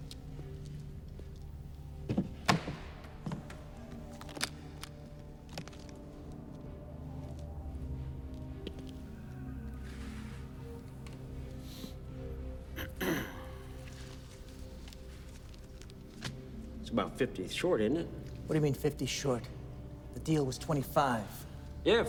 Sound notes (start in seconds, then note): 2.4 lid thuds; 4.1 case clicks; 12.8 Gammon clears throat